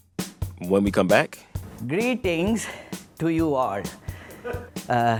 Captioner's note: soundbite of archived recording